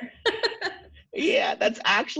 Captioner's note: laughs